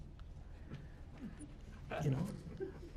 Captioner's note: laughter